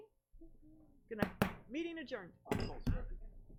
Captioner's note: gavel knocks; participants chatting